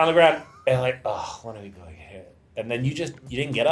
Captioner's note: sighs